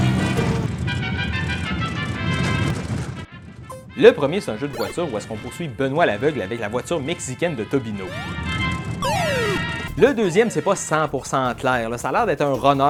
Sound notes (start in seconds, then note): 0.1 mexican Music; 9.0 8bits sound effects